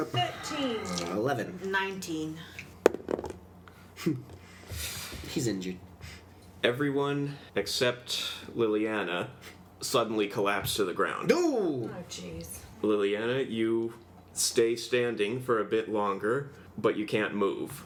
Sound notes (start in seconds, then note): 2.9 dice roll; 4.0 Maklaw scoffs